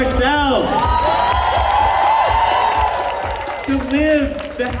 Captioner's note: cheers